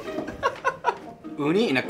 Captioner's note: laughs